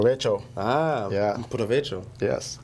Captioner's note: speaking in foreign language